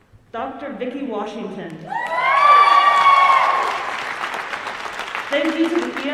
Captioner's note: audience cheering